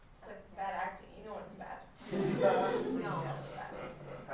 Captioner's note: laughter